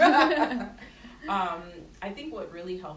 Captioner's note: laughter